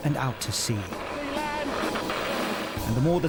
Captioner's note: boat droning